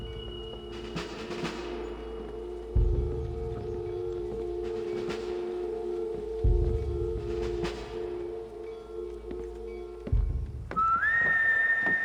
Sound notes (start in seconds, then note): none